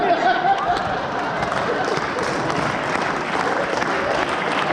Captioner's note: applause